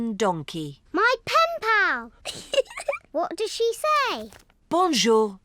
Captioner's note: giggles